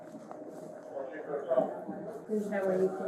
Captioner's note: radio chatter